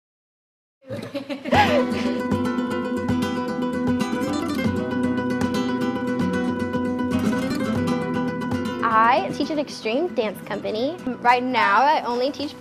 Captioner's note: laughter